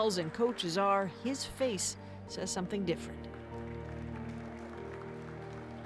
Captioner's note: applause